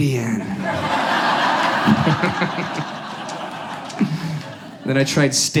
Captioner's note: audience laughs